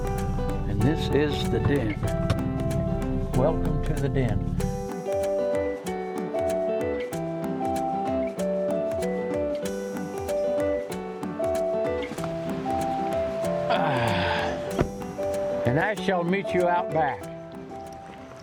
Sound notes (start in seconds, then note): 5.0 gentle upbeat music; 13.7 grunts